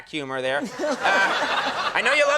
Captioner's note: laughing